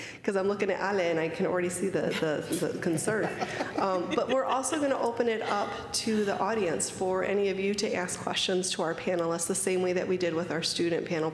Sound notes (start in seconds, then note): 2.1 laughter